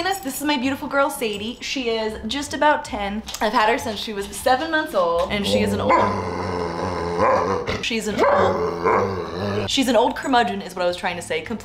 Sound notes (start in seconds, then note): 5.3 Sadie growling